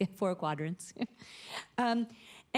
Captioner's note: chuckles